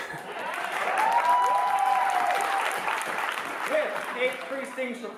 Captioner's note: audience applause